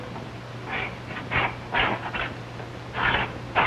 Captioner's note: loud scraping